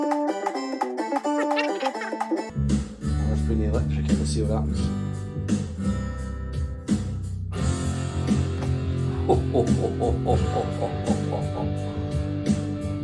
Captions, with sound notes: I must bring the electric in and see what happens. (Laughs like Jabba the Hutt)